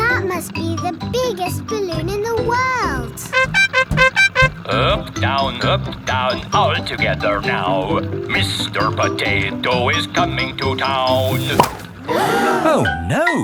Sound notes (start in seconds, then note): 3.1 horn beeping; 11.9 all gasp